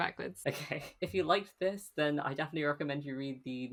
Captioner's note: laughing